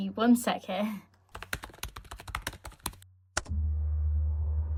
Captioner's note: keyboard clacking